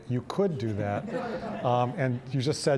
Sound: audience laughing

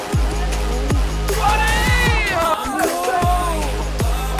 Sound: cheers

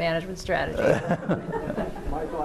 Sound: laughter

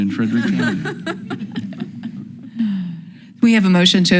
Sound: people laughing

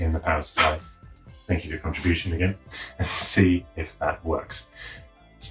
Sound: dog coughs

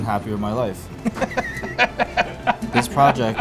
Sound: laughing

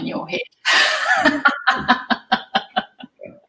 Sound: laughter

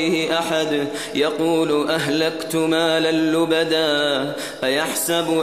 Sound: boastfully

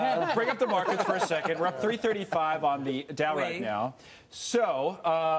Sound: laughter

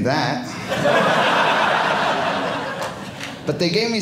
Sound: audience laughing

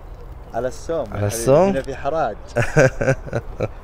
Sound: Arabic

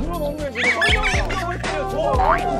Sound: excited

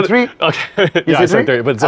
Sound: laughs

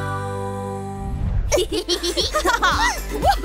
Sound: giggling

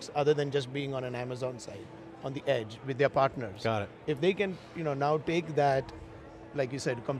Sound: none

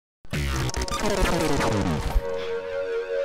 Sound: laser noises

